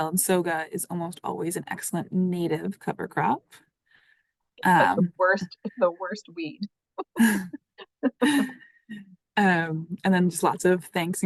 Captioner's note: laughter